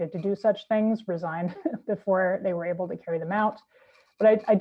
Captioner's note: chuckles